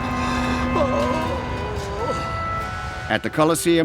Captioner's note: Petronius moaning